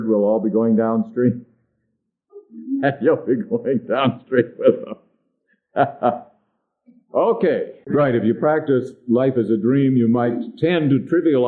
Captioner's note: laughs